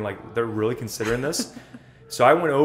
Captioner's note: laughter